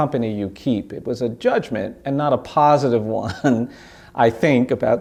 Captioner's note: laughs